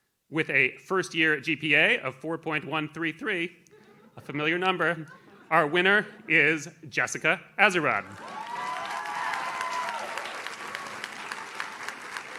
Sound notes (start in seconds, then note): 4.8 audience laughs; 8.0 audience cheers